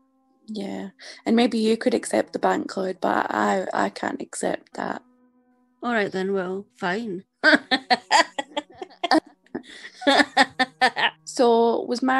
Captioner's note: laughs